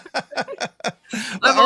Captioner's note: laughing